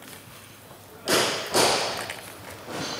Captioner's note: hammering